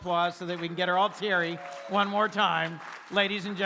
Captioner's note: applause